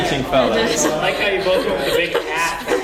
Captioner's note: laugh